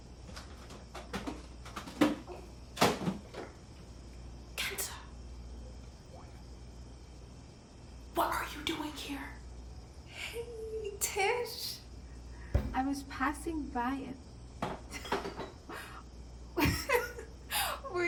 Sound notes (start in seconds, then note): 1.6 objects clattering; 16.6 Kenza laughs